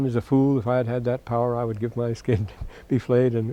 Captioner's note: laughter